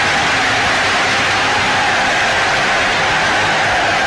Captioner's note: crowd cheering